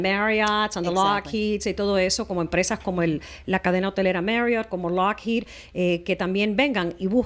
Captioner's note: Hablando ingl\s